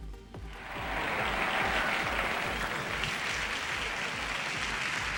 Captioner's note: audience applauds